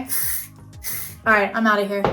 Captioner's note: nozzle spraying